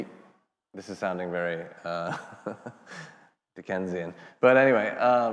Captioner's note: laughs